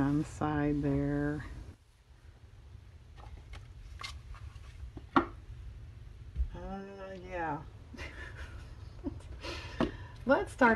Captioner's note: laughs